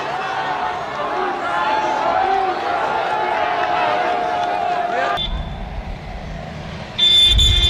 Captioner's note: تشویق حضار